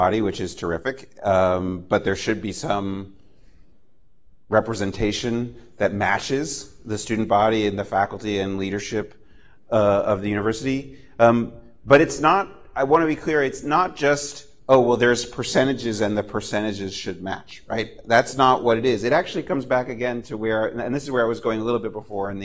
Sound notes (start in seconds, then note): none